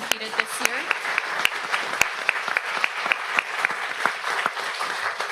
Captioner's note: audience applauds